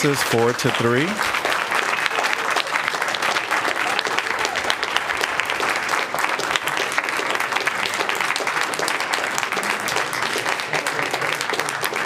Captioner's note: applause